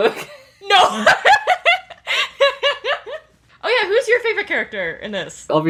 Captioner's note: laughs